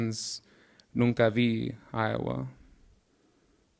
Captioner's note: speaking in Spanish